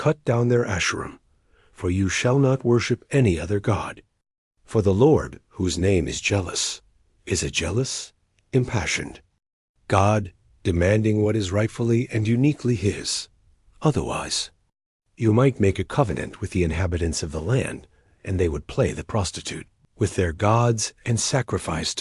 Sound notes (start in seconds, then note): 8.3 impassioned